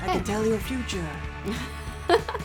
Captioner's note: laughing